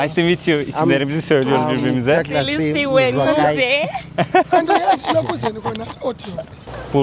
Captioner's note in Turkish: kahkaha